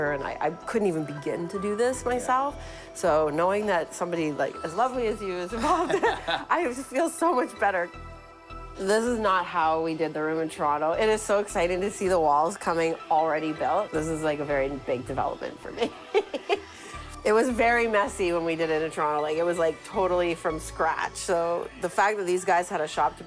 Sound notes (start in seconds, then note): 15.8 laughing